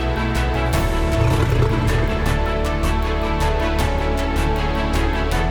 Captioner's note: lion growls; lion roaring softly